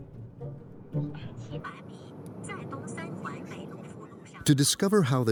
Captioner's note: GPS device speaking in foreign language